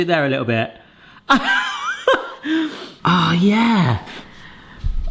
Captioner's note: laughs